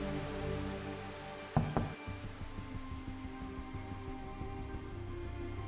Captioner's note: knock on door